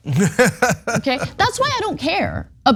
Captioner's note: laugh